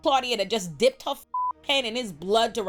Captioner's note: beep